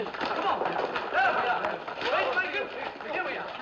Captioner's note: Gritando, Conversando